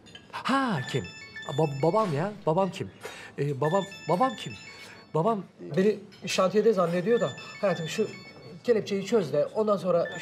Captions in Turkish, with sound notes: Ha kim, babam ya, babam kim? Babam, babam kim? Babam, beni şantiyede zannediyor da. (Telefon zili) Hayatım şu... ...kelepçeyi çöz de ondan sonra...